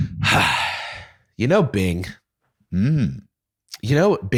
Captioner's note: sighs